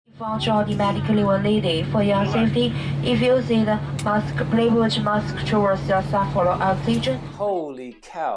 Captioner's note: speaking English in Chinese Accent